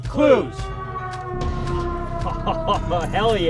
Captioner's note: siren sounds